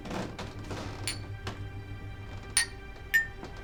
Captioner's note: glasses clanking